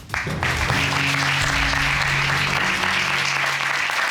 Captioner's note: audience applauding